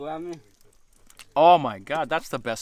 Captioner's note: speaking in foreign language